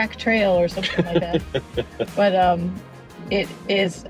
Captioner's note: laughs